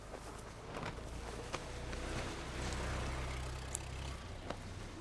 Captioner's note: car approaching